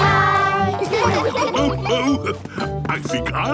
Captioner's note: laughs